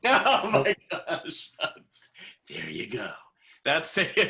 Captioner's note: laughter